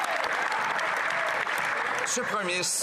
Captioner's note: some Applause